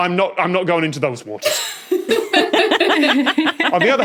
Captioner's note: guests giggling